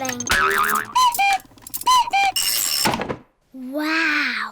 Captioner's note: clock cuckoos